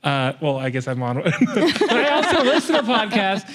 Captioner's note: laughter